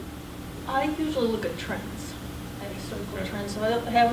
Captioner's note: voiceover